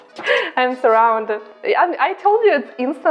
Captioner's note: laughs